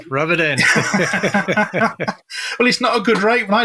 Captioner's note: laughs